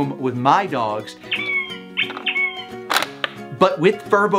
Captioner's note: Furbo camera squeaking